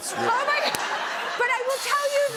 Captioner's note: laughter